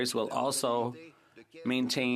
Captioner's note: speaking French